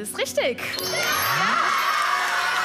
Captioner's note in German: Jubel